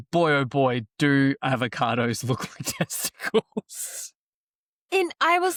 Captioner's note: laughs